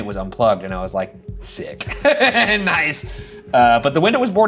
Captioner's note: laughs